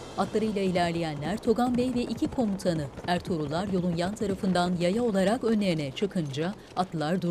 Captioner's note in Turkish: At nalı sesleri